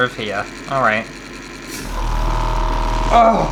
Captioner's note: loud Motor Sounds